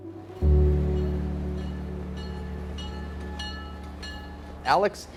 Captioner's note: train bell dinging